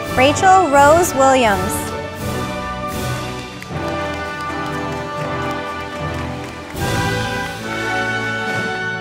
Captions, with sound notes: Rachel Rose Williams, (audience applauding)